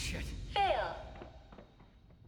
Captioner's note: robotic female voice